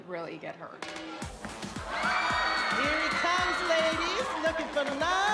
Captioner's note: women screaming